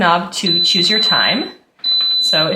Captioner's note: oven beeping